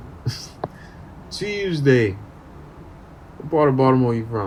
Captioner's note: baltimore accent